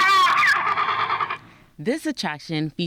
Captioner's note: dinosaur scream